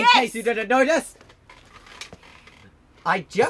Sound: rope creaking

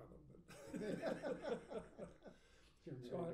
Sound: laughing

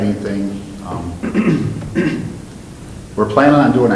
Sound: clears throat

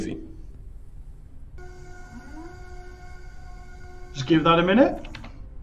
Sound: whirring

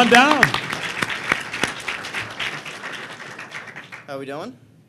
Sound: applause

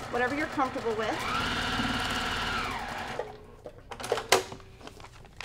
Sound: sewing machine grinding

